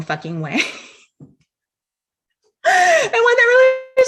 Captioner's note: laughing